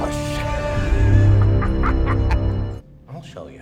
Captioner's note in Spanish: risas guasionas